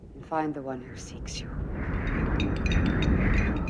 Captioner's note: angin bertiup, lampu gantung berdenting